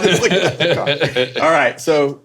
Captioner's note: Dwyane laughing